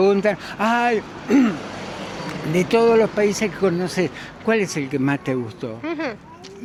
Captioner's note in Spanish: carraspeo